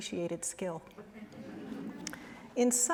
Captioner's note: laughter